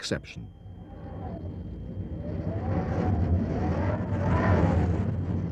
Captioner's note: wind howling